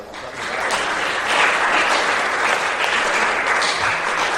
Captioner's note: applause